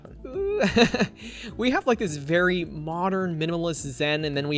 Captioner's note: laughs